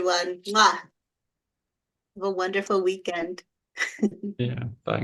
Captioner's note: chuckles